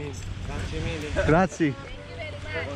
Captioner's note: speaking in a foreign language